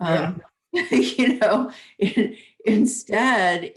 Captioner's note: laughing